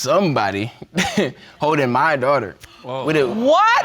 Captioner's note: chuckles